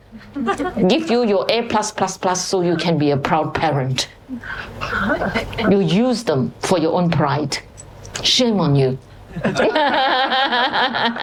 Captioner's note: laughter; 笑聲